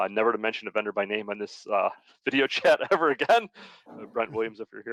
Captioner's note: laughing